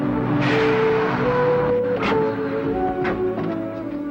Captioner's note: truck hissing and stopping; gentle music